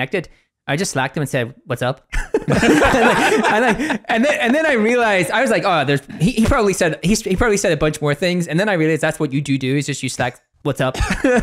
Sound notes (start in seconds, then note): 2.2 laughing